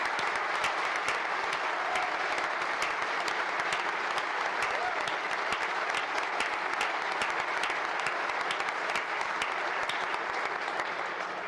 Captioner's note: applause